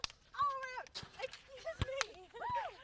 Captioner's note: laughs